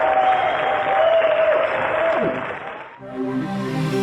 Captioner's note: applause